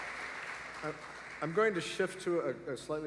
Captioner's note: applause